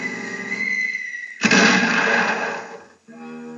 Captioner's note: thud